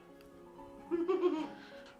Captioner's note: laughing